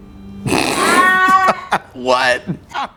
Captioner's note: laughing